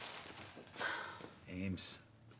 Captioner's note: sigh